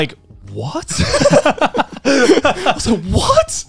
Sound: laughs

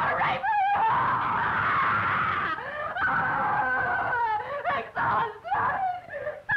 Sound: screaming

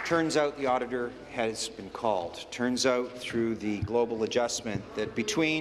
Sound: applause

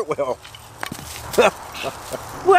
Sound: laughs

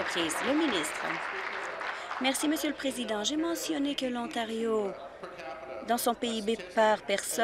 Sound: applause

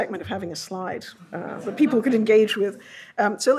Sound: audience laughs

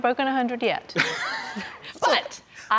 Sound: both chuckling

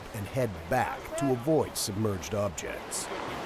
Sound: voiceover

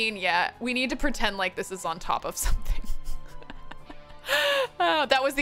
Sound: laughs

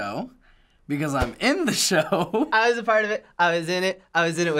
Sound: chuckles

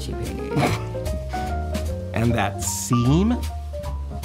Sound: snickers

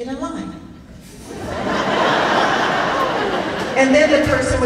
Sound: laughing

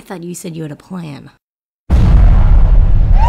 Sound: kaboom

